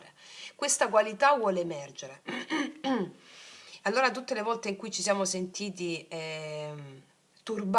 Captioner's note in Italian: schiarire la voce